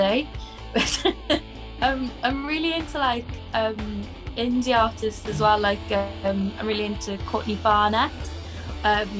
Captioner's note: laughs